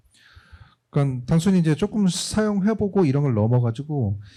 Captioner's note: speaking korean